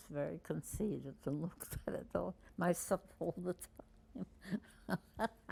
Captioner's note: laughing